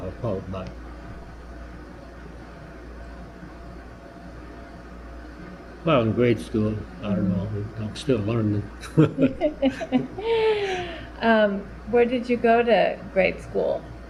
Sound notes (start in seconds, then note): 10.8 laughter